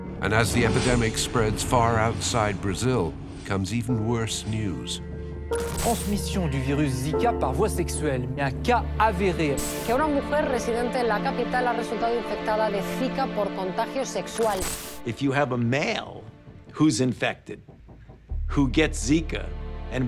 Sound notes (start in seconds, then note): 5.6 reporter speaks in foreign language; 9.8 newscaster speaks in foreign language